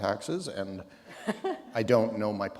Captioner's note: chuckle